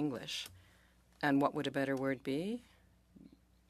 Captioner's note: speaking French